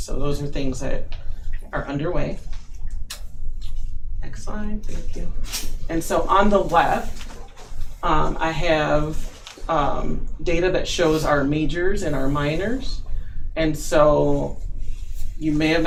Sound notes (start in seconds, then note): none